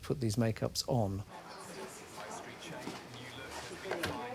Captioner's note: indistinct chatter